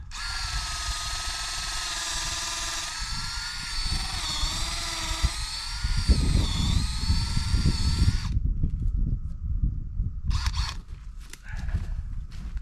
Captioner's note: drill whirring